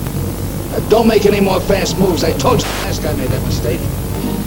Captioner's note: static